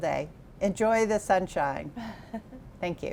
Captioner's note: chuckles